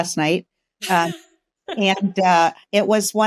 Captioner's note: laughing